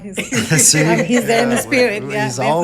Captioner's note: panelists laughing